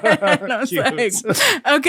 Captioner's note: laughing